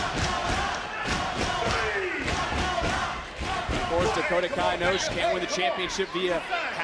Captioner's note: crowd chanting "dakota"